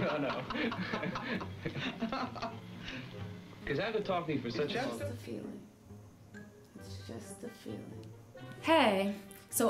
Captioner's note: laugh